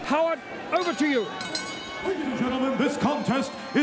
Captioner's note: bell rings